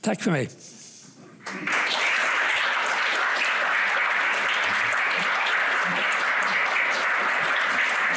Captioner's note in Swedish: Applåder